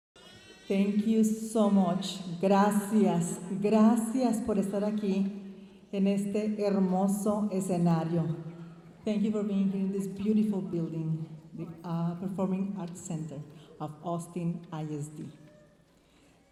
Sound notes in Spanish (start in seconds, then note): 0.7 hablando en inglés; 9.1 hablando en inglés